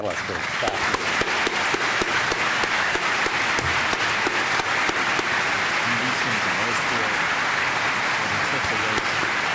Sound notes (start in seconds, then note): 0.0 applause; 5.8 background chatter